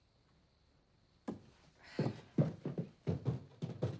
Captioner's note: sighs